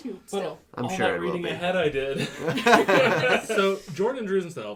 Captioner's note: laughter